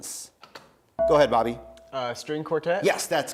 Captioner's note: bell rings